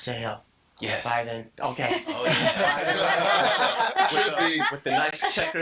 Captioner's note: all laughing